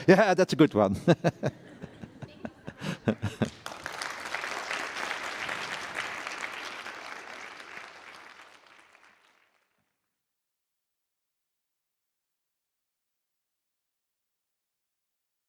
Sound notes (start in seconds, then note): 2.7 applause